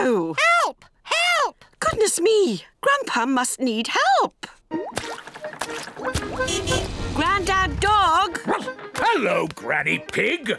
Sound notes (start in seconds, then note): 6.2 car horn honking; 8.4 barks